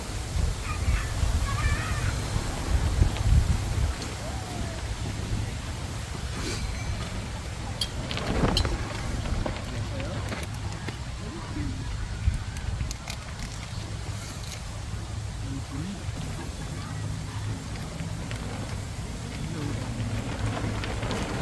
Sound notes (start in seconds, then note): 4.0 laughing